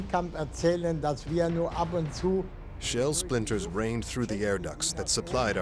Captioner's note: speaking german